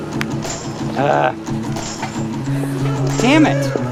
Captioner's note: groans